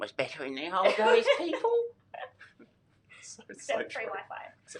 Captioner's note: laughing